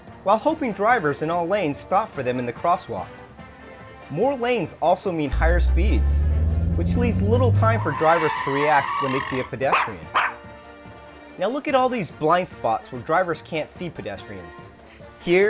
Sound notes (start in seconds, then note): 9.1 sounds of brakes sqealing; 9.7 dog barking